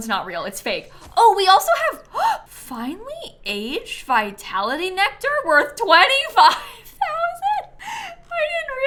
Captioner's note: gasps